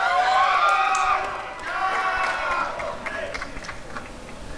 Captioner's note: applause and cheering